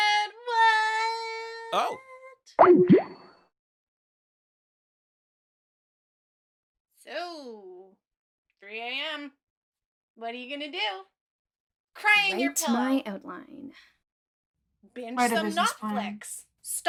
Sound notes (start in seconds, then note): 2.7 SFX: Skype end call